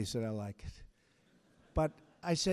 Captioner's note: laughter